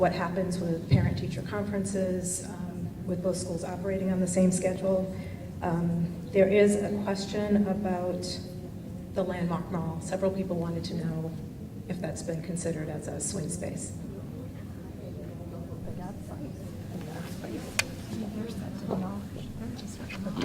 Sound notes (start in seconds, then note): 14.5 crowd muttering